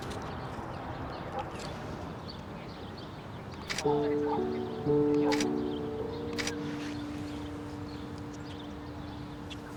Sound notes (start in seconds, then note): 3.6 shutter clicking